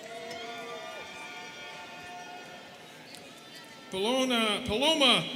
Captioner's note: students cheering